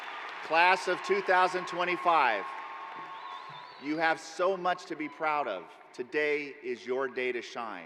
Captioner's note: cheers and applause